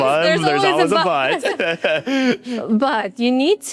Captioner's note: both laughing